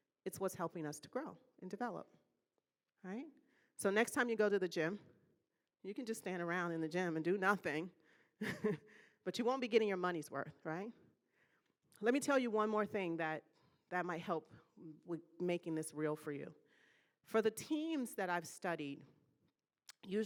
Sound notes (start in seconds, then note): 8.7 laughing